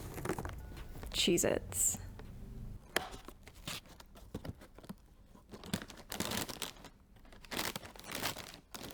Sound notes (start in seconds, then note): 3.2 packaging rustling